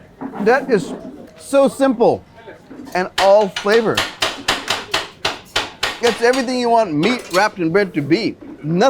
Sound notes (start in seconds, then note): 3.0 knife tapping